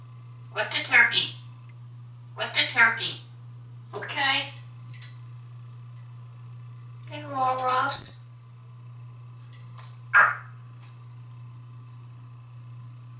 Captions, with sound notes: What the turkey? What the turkey? Okay? You alright? [cluck]